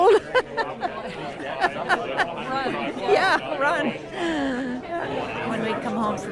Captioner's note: laughs